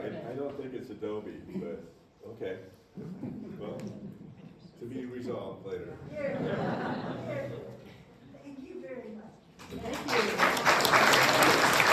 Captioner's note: applause